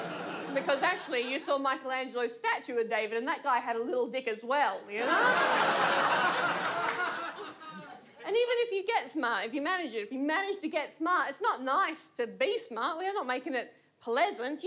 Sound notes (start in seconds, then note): 4.9 audience laughs